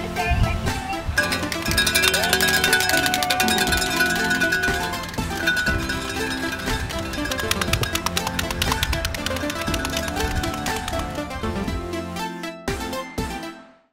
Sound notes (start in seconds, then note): 1.2 bell ringing; 3.7 happy music